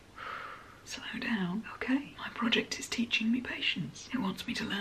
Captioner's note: sigh